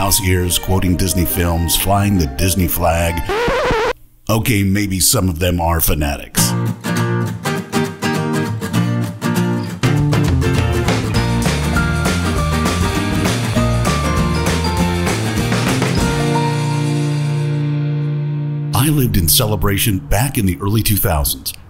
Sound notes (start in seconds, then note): 2.9 record Scratch